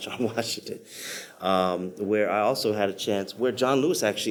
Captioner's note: laughs